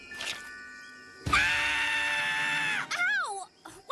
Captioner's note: Sierra Screaming into Zoey's Ears